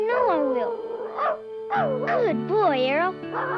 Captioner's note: Arrow barking